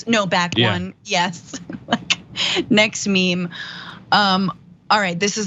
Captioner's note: laugh